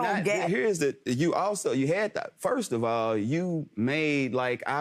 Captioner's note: stammers